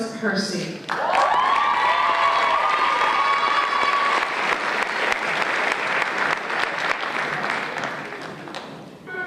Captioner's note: applause and Cheers